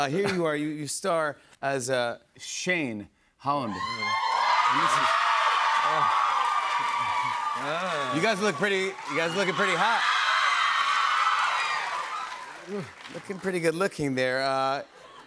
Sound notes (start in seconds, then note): 4.6 cheers and applause; 10.3 cheers and applause